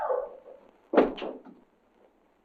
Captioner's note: thud